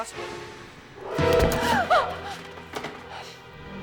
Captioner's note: gasps